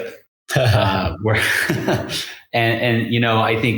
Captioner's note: laughs